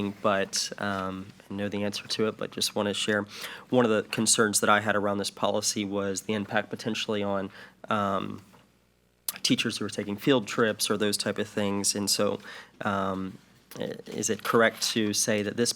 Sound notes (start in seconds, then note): none